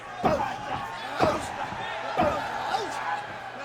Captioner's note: kicks thudding